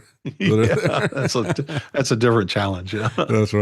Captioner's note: laughing